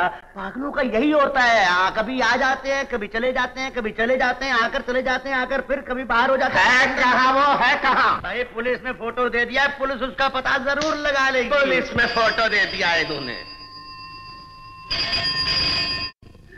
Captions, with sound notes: Mad people are like that, they come and go. But where is he? I have given his picture to the police, they will find him. [Telephone Ringing] Picture indeed!